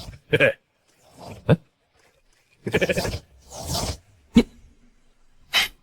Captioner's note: chuckles